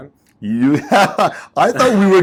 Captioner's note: laughs